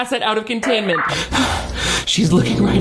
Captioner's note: 2-way radio signal crackling; gasps